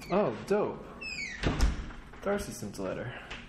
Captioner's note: door closes